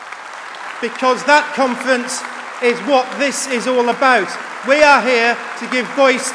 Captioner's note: applause